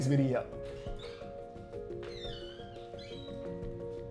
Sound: door squeaks

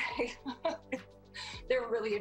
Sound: chuckles

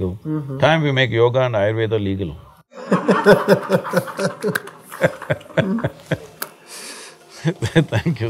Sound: laughter

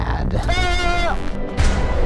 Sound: goat noise

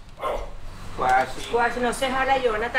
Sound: dog barking; speaking in foreign language

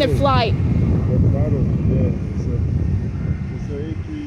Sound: dad talking

